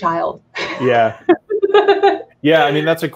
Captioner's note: laughing